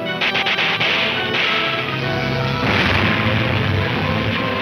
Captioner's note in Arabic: البنادق تطلق النار بشكل عدواني